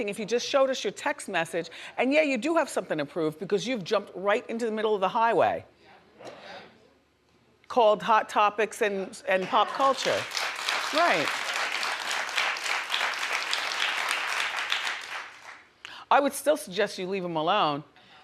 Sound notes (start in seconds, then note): 11.1 audience applauding